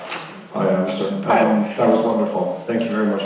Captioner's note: voiceover